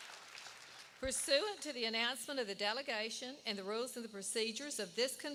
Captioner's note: applause